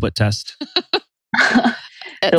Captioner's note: laughs